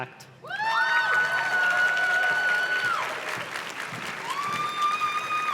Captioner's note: audience cheers and claps